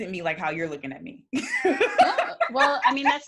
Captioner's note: laughs